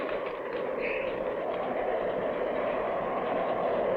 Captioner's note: wind howling